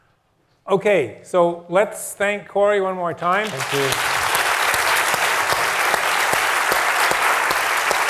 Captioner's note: applause